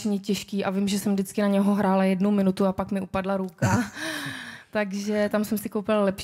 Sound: laughs

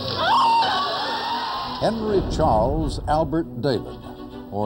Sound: crowd cheers

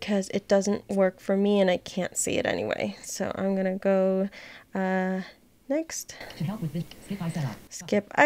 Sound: voiceOver talking

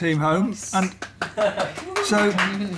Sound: applause

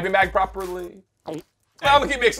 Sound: gulp

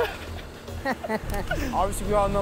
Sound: laughing; laughs

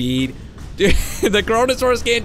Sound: laughs

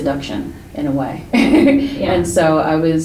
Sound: chuckles

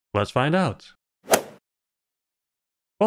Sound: golf ball hit sound

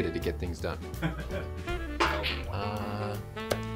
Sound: man laughing; bottle clonks

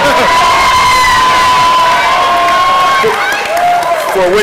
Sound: applause

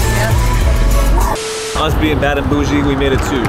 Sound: TV Static

